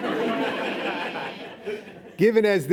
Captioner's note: laughing